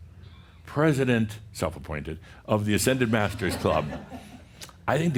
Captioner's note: some chuckles